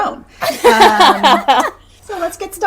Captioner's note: laughing